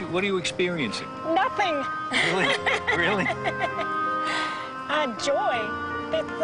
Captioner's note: laughing